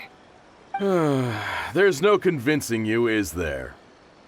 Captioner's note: sigh